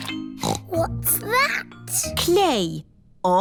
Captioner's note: snorts